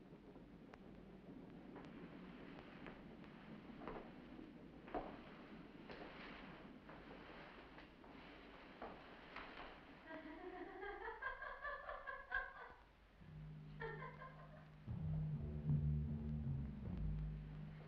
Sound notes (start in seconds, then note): 10.1 woman chuckling; 13.2 suspenseful theme playing